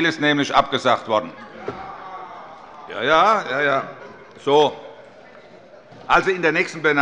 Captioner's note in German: Allgemeine Heiterkeit